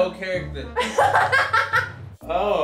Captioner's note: laughing